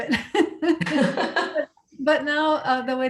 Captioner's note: all laughing